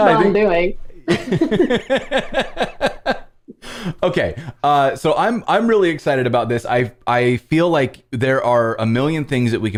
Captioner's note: laughter